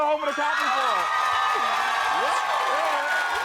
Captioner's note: crowd cheering